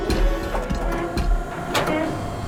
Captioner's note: door open close